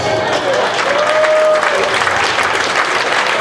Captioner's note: audience applauding